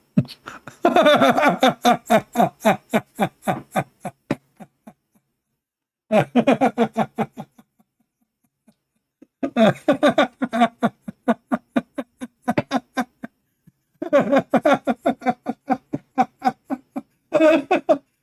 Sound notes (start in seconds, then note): 6.1 Ketawa